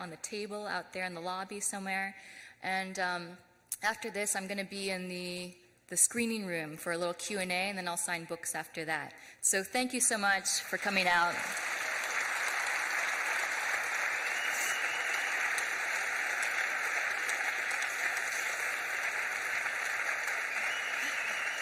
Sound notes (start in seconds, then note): 8.9 audience applauds; 8.9 audience cheers